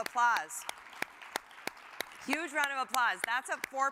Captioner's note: audience applauds